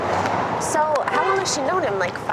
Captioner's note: street Sounds